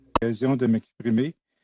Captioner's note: speaking French